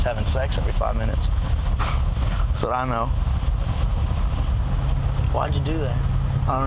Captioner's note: scoffs